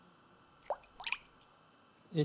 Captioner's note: water splashing